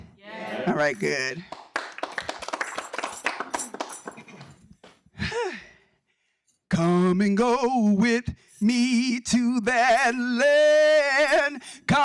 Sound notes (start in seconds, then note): 1.4 audience applauding